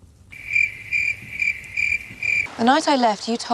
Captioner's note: crickets